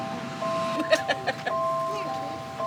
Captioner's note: laugh